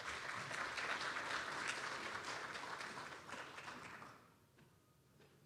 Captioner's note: applause